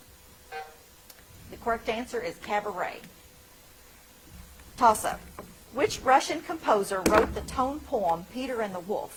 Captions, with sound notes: (timer buzzing) The correct answer is Cabaret. Toss Up. Which Russian composer wrote the tone poem, "Peter and the Wolf"?